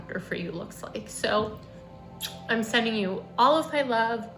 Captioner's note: kisses